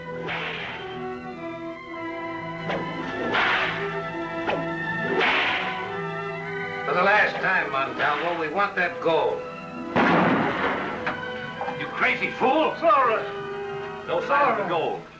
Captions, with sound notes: For the last time, Montalvo, we want that gold. [GUNSHOT] You crazy fool! Zarra. No sign of the gold.